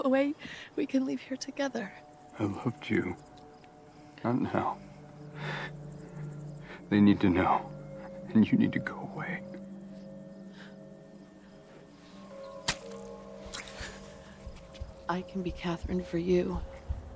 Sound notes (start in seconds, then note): 13.5 fleshy sucking